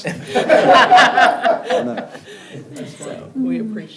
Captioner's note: attendees laugh